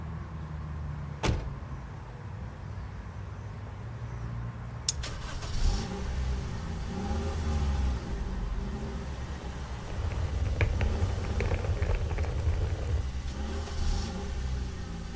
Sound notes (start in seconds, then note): 1.2 door closes; 4.9 engine starts